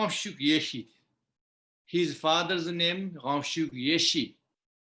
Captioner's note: tibetan; tibetan